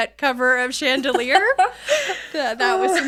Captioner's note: laughing